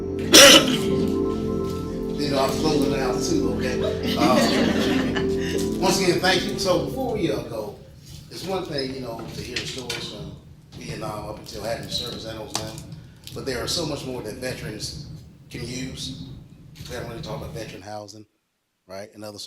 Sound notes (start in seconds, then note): 3.1 audience laughs